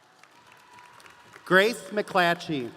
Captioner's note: audience applauding